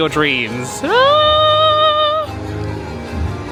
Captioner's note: squealing; exciting music